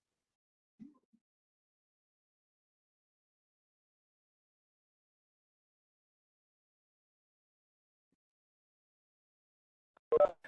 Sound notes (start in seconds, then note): 1.7 pause